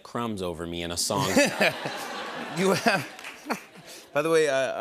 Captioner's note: laughter